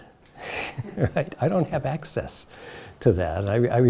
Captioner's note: chuckles